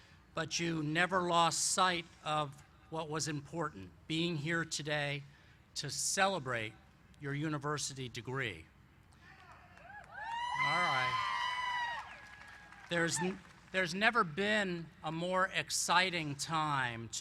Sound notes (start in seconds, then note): 9.2 cheering